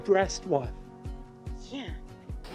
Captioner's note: kissing